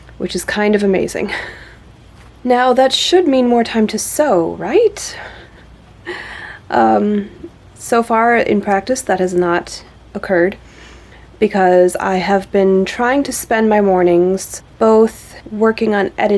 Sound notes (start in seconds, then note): 2.0 laughs; 6.0 laughs softly